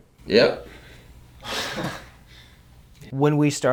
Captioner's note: laughs